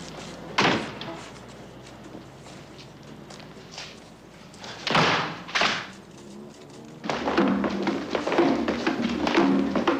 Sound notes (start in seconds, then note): 4.8 thud